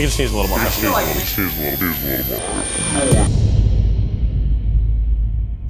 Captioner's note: deep voice garbles